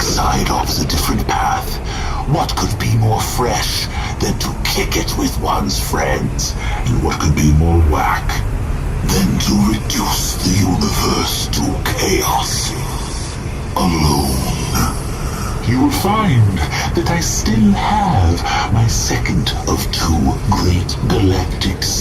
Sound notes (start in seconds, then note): 0.0 crackles with ancient Space and roars; 10.7 echoes